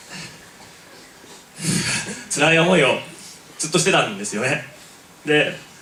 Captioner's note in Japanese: ため息